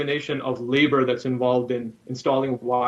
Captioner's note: microphone feedback